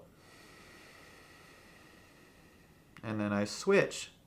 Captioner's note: exhales slowly